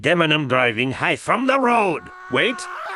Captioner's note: screaming while driving high